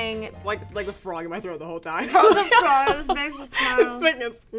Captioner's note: laughs